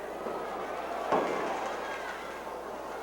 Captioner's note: crowd chattering; crowd exclaims